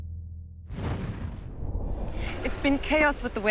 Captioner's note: air whooshes